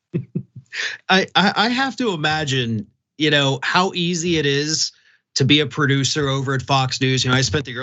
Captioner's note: laugh